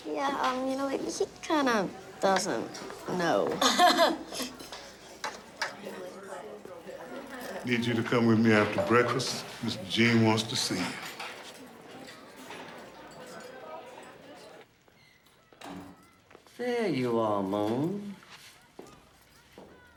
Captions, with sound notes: - Yeah, ah, you know, he kinda doesn't know. (laughs) - Need you to come with me after breakfast. Mr. Gene wants to see you. - There you are, Moon.